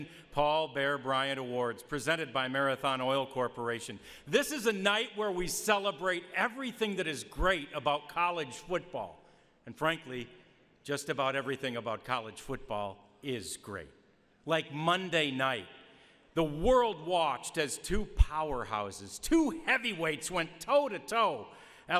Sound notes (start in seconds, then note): none